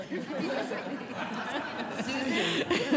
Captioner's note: laughter